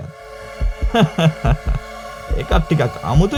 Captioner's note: laughs